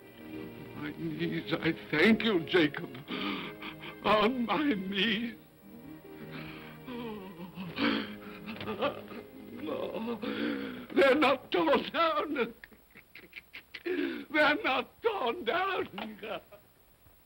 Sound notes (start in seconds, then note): 6.9 Scrooge whimpers